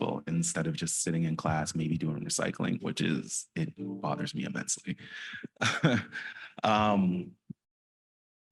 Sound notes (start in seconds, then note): 5.2 laughs